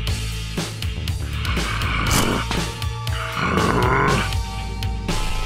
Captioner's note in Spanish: Gruñe dolorosamente